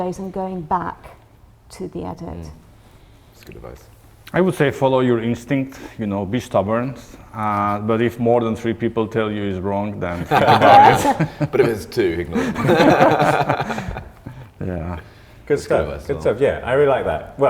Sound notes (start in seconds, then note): 10.1 laugh